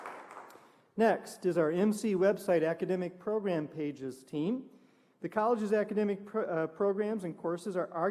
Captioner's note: applause